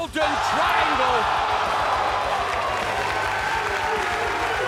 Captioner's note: crowd cheering